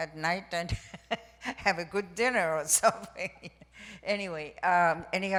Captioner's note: laughs